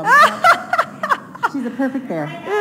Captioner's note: laughing